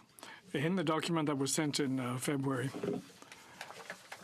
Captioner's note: speaking in french